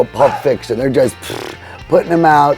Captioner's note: imitating press whirring